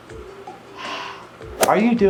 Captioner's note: sighs